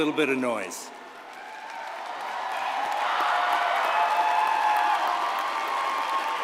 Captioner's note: audience cheers and applauds